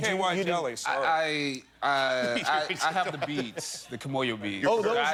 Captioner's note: laughter